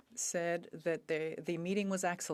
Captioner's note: speaking French